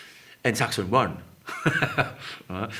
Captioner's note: laughs